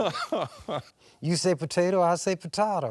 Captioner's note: laughing